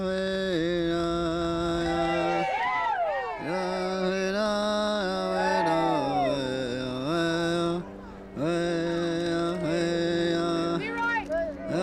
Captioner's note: chanting